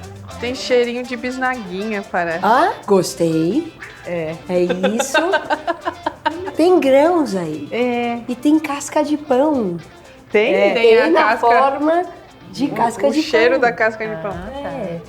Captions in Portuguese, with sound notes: Tem cheirinho de bisnaguinha, parece. Ah! Gostei. -É. -É isso. [risos] -Tem grãos aí. -É. E tem casca de pão. -Tem? -Tem na forma de casca de pão. -O cheiro da casca de pão. -É.